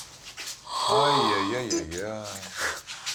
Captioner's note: moans